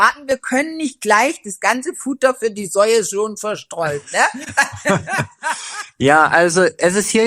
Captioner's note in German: gelächter